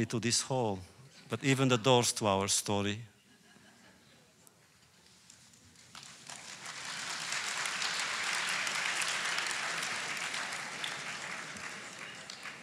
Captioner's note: applause